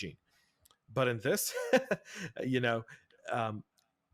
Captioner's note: laughs